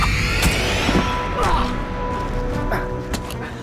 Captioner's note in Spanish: Grito